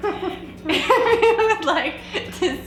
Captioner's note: laughing